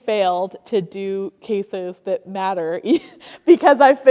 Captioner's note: giggles